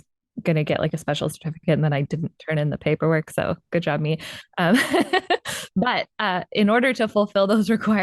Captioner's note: laughs